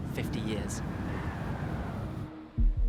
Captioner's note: wind howling